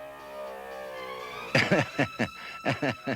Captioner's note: chuckles nervously